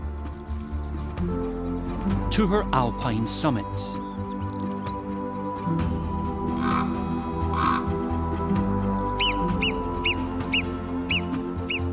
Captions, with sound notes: to her Alpine summits. [ibex grunting] [squeaky calls]